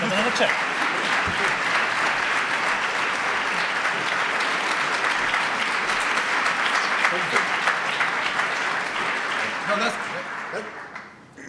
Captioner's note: audience applause